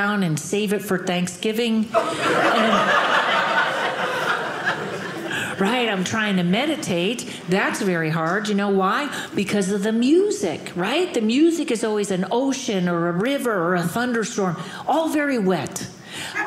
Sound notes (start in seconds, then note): 1.9 audience laughing